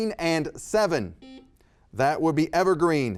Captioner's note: buzzer beeping